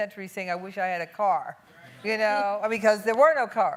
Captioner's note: none